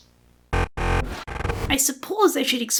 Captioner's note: glitch Noise